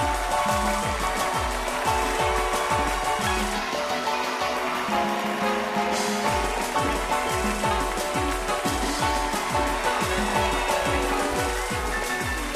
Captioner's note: band playing; cheers and applause